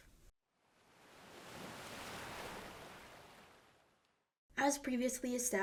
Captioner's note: waves crashing